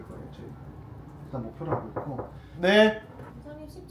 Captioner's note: knock, knock